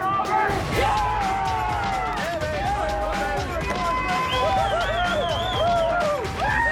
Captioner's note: cheering